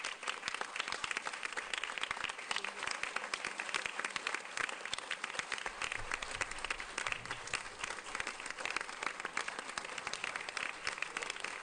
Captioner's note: applause